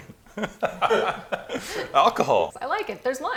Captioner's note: laughing